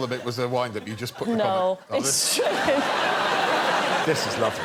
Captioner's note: laughs